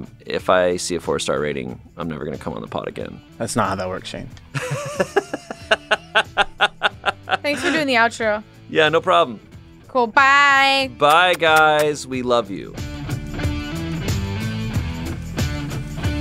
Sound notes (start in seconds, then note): 4.5 laughs; 12.7 rock music plays